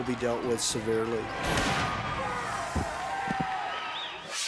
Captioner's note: spectators shouting; air whooshes